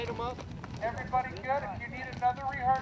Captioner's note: man on megaphone